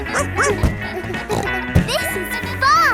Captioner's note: snorts; barks